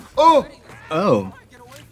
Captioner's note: Trixie gasps; both gasping